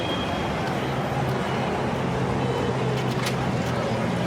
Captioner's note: street sounds